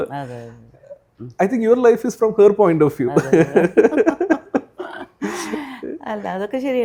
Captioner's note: laughs